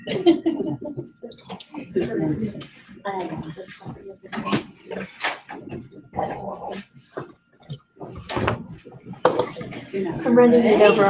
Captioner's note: laugh